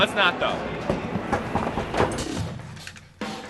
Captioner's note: knocking on the door